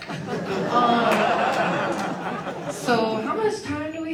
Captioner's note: audience laughs